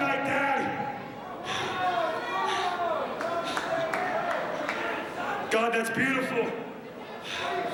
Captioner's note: crowd chatter